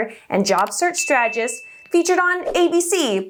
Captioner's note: bell dings